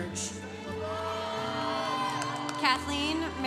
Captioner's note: congregation cheering